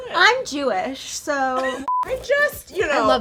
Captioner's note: laughs